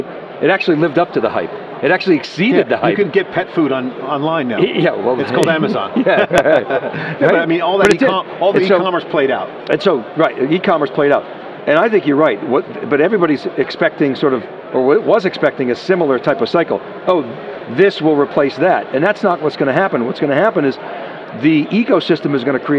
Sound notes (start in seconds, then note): 6.8 co-Hosts Chuckle Together